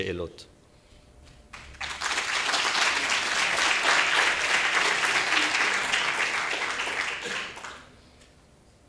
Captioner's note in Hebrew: מחיאות כפיים